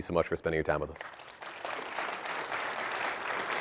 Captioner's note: applause